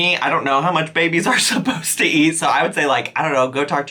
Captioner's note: chuckles